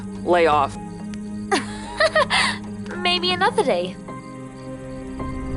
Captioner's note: laughs